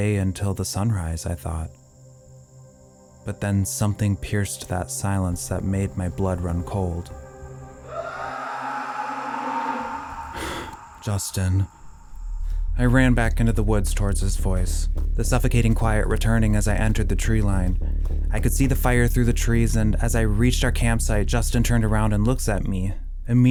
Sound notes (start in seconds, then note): 7.7 scream